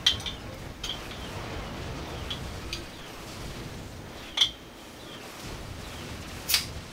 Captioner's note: metal tapping against glass